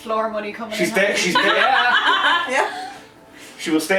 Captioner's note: laughter